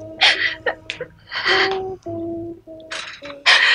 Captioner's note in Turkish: Hıçkırıklar